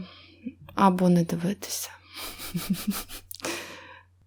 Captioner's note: laughs